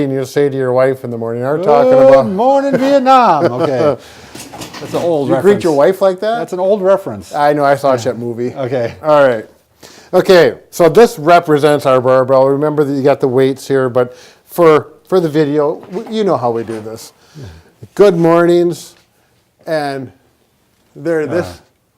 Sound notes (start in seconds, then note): 3.5 both laugh